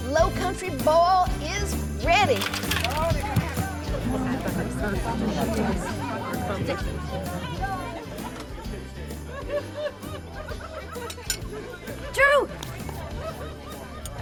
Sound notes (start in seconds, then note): 2.5 vegetables thud on table; 3.9 people chattering